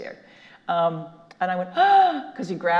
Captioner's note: gasps